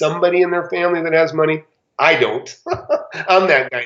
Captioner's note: laughs